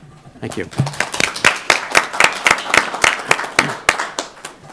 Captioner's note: applause